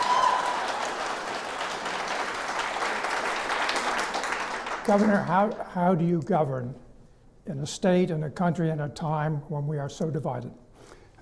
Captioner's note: clapping